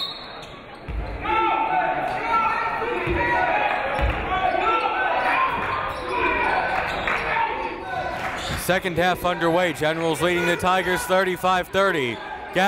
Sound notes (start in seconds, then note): 0.0 whistle